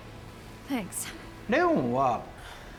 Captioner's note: in English